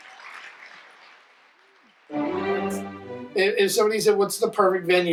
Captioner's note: audience applause